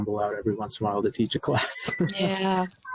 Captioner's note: laughs